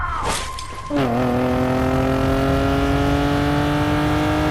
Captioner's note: screams; car rushes